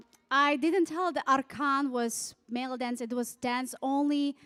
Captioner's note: speaking foreign language